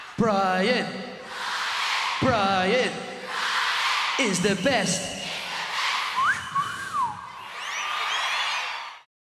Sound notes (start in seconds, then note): 1.0 crowd; 6.1 crowd whistles; 6.1 whistles